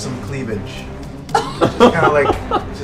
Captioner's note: laughter